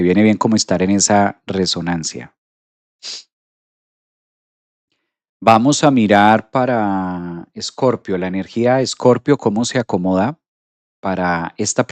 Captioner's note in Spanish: resoplido